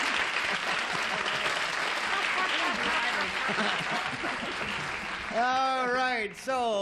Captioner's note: applause